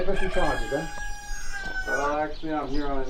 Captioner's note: rooster Caw